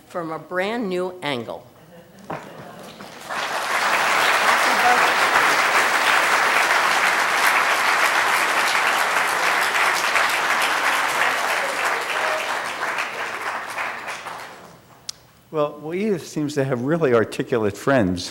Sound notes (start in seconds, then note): 2.2 applause